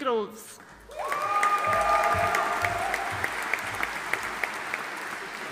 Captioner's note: audience cheering and applauding